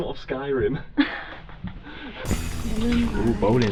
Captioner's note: laughs